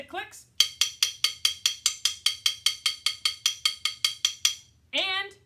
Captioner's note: clicks sticks together